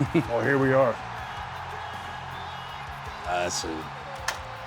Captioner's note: audience cheering